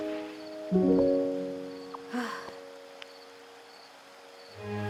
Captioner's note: none